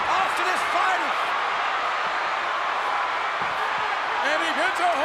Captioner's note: crowd yelling